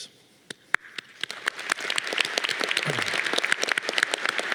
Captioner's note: audience cheering